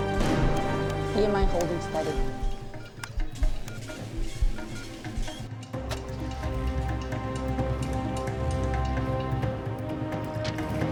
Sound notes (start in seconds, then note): 2.3 beeping and whirring on monitor